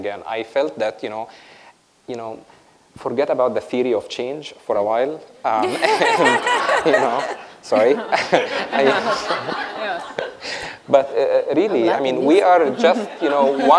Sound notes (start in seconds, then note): 5.6 laughter